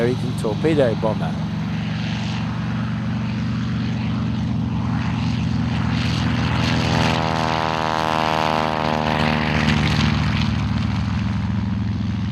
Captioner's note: aircraft sounds